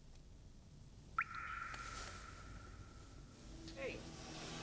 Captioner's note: water drips